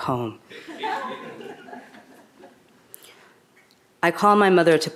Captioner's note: audience laughing